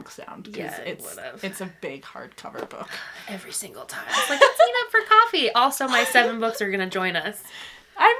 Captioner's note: laughing